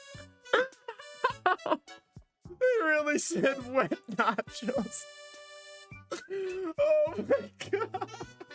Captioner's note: laughing